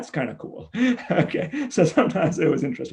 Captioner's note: laughs